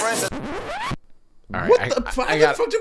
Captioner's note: record scratch sound